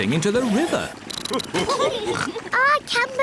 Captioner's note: all laugh